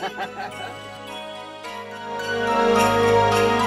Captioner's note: laughing; christmas music